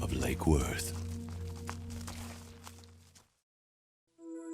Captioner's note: footsteps stomping